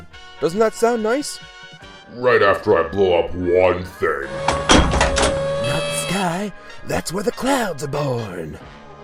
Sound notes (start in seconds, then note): 4.2 mechanical noises